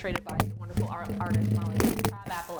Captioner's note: microphone shuffles